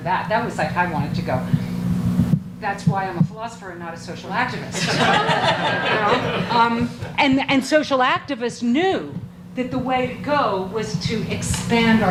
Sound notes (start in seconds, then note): 4.7 audience laughs